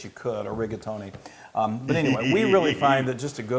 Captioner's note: laugh